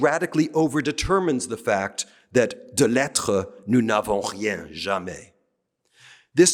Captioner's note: speaking french